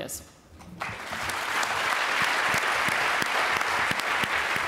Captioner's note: applause